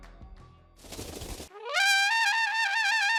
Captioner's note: upbeat music; wings flapping; trumpet blowing